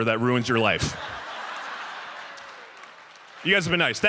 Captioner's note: audience laughs